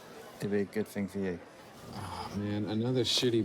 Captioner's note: none